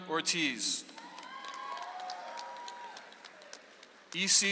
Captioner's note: audience applauds